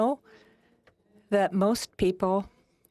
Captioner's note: speaking French